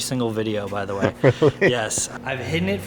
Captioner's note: laughs